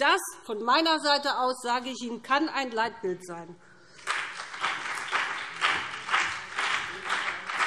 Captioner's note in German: Beifall BÜNDNIS 90/DIE GRÜNEN und CDU